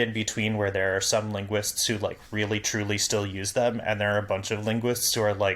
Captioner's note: none